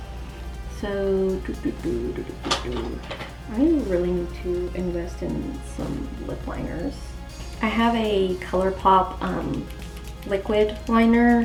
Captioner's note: hums